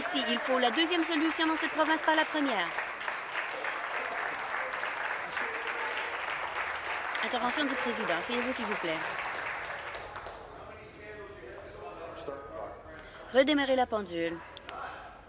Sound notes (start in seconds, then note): 4.3 applause